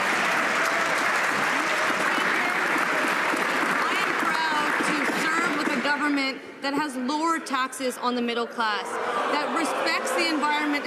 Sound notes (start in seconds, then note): 2.0 some Applause